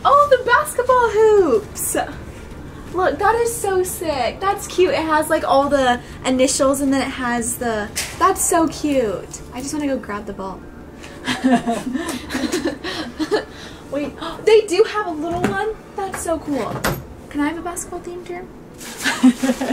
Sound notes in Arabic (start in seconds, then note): 11.2 ضحك; 19.0 يضحك